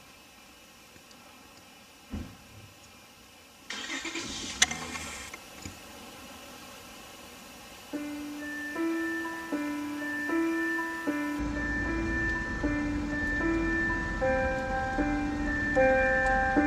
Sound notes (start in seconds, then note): 3.7 car engine starting; 6.1 wind blowing; 7.9 piano music playing